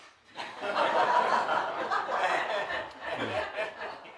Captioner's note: audience laughs